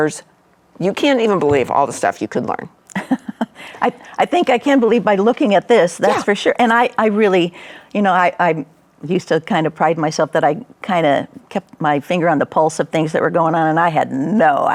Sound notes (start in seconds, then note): 2.9 laughs